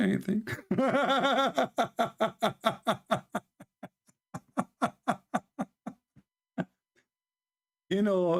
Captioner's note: Ketawa